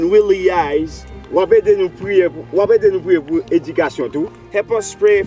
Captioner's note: speaking in foreign language